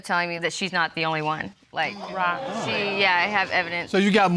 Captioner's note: audience exclaims